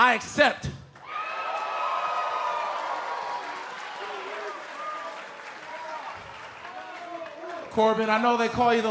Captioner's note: cheers & applause